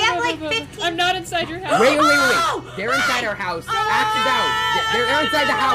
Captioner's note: everyone screams